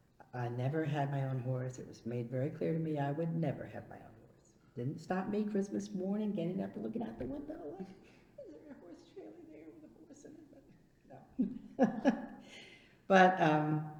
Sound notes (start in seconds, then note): 11.2 laughs